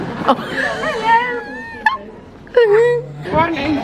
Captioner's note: laughs